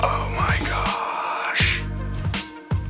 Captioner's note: deep inhale of excitement!